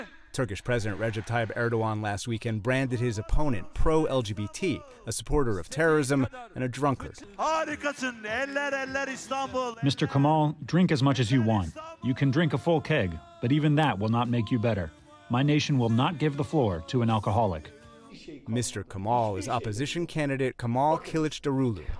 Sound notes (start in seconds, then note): 9.0 through translator